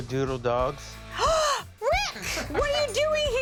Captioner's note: gasps